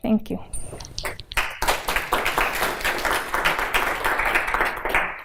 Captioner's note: applause